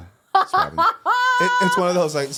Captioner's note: laughter